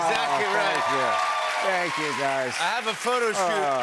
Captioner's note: cheers and applause